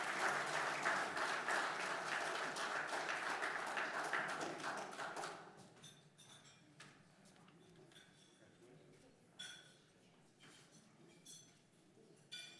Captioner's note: applause